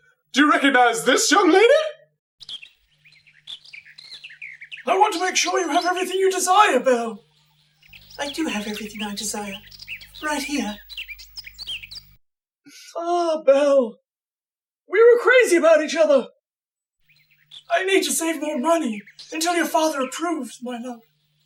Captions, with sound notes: Do you recognize this young lady? [Birds chirp] I want to make sure you have everything you desire, Belle... I do have everything I desire... Right here! Ah, Belle... We were crazy about each other! I need to save more money, until your father approves, my love...